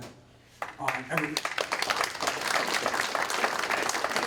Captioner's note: applause